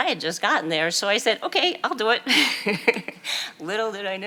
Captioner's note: chuckles